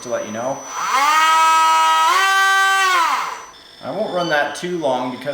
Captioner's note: engine whirs loudly